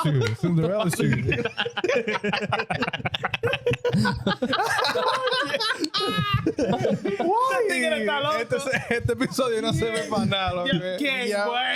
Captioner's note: laughing; speaking In Foreign Language